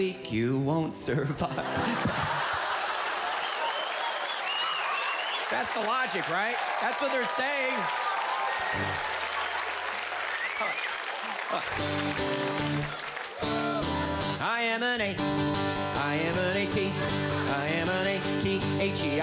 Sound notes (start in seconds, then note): 3.3 audience laughs; 9.6 audience applauds